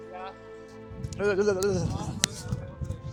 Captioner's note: shivering